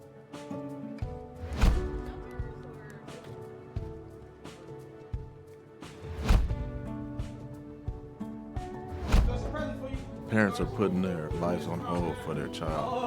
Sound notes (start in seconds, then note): 1.4 whoosh; 6.1 whoosh; 9.0 whoosh